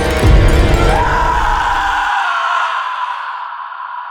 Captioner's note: pained scream